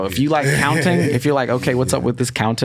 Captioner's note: laughs